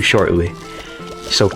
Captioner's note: inhales Oxygen